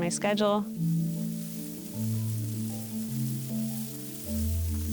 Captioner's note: plants dragging